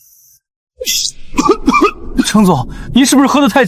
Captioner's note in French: Tousse